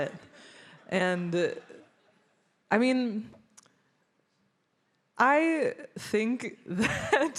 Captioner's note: laughs